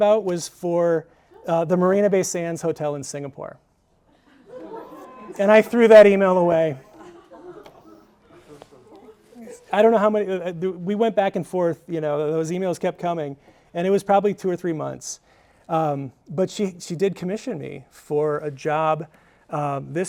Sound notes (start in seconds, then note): 4.2 audience gasping; 6.9 audience chattering